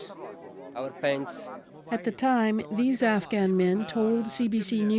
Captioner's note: speaking Foreign Language